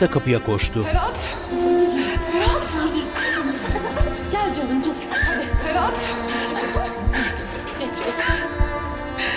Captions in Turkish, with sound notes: Ferhat! Ferhat! Gel canım, dur. Hadi. Ferhat! (Ağlama sesi) Geç, otur.